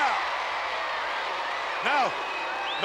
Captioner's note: applause